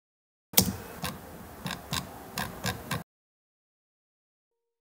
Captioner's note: typing on keyboard researching on wood fired stove hot tub